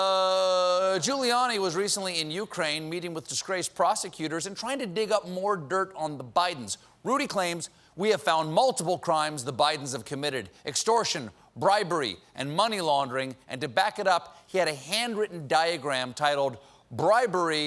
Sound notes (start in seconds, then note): none